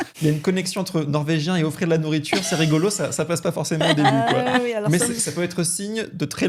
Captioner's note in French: rires; rires